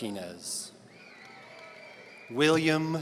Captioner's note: audience cheering